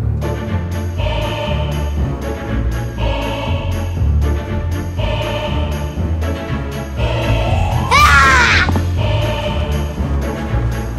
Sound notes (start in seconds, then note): 0.1 spooky theatrical music; 7.7 yells